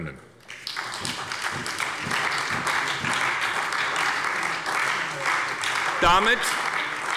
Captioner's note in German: Beifall bei der SPD